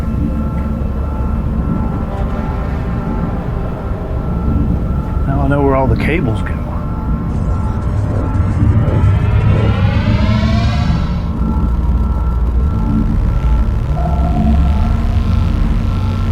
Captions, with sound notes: Now I know where all the cables go. (tense music continues) (systems humming)